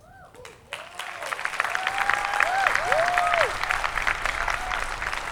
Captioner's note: audience applauding